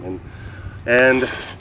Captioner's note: snuffle